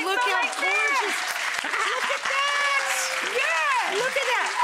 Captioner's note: audience applause